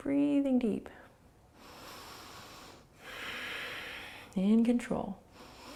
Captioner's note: inhaling and exhaling